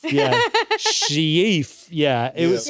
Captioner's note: laughs